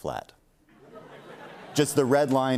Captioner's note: laughter